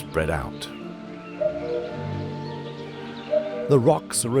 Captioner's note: cuckoo calls